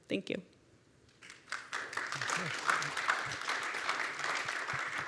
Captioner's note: applause